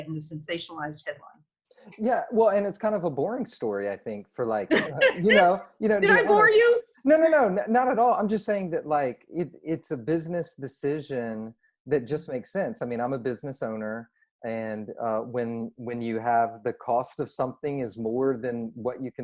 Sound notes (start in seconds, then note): 4.4 laughing